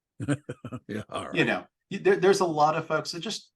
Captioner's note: chuckle